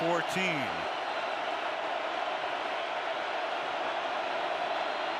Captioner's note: cheering